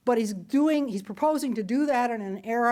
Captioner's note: none